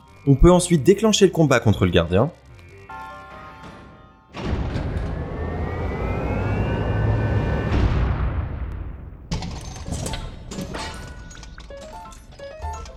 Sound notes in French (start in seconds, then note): 4.2 bruit de l'ascenseur